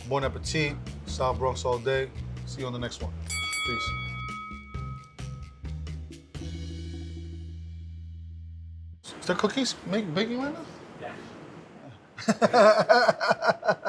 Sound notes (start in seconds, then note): 3.2 bell sounding; 5.0 jazzy music; 12.2 laughing